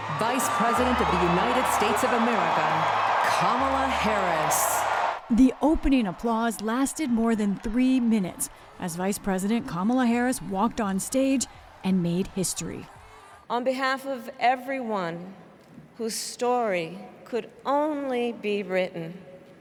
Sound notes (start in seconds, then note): 5.3 applause; 5.3 cheering